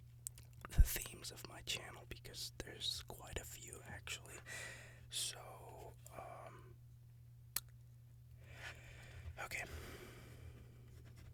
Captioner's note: lip smack